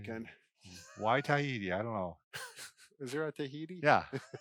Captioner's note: laughing; laughing